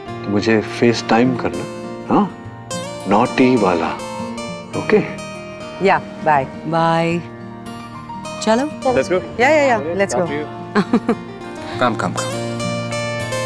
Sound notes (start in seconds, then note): 10.7 laughing